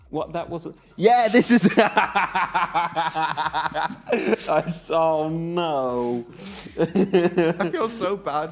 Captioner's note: laughter